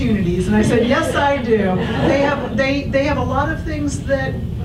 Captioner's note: audience laughs